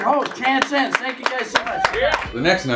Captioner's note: applause